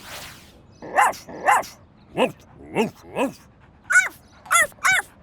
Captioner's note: barking